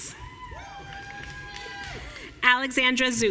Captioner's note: audience cheering